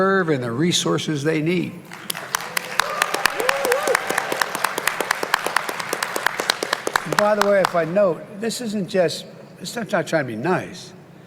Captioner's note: applause